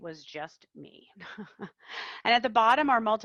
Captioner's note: laughs